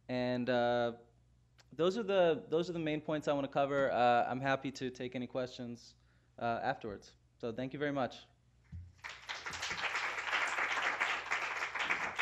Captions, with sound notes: And those are the those are the main points I want to cover. I'm happy to take any questions afterwards. So thank you very much. [APPLAUSE]